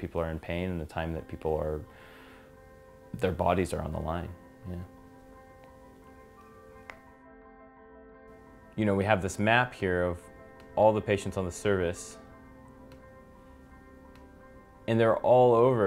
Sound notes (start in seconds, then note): 6.8 knuckle cracks